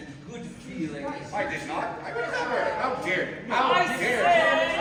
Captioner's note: Sounds of GONDOLIERI squabbling; MARCO, loudly